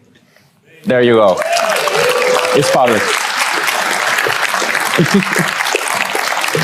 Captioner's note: audience cheers